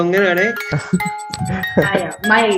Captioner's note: laughs